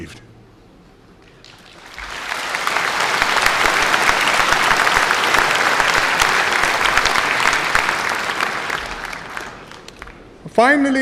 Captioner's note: applause